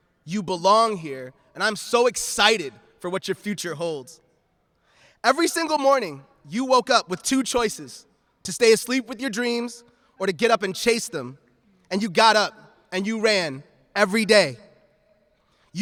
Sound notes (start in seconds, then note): none